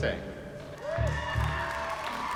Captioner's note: cheering, whooping